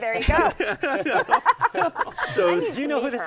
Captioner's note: laughter